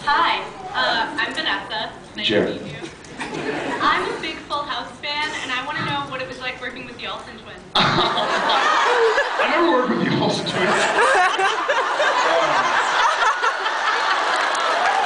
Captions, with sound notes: Hi, I’m Vanessa. Nice to meet you. Jared. I’m a big Full House fan and I want to know what it was like working with the Olsen twins. [laughs] I never worked with the Olsen twins. [laughs]